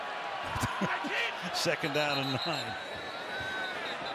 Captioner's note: laughs; whistle